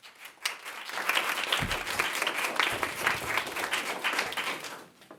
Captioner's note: audience applauses